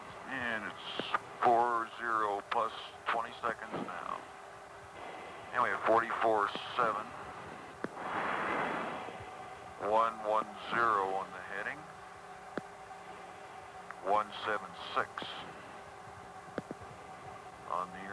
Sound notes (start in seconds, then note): 0.8 man’s voice over radio; 14.5 man’s voice over radio